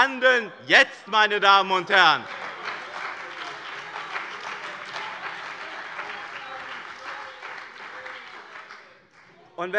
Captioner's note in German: Beifall bei dem BÜNDNIS 90/DIE GRÜNEN und der CDU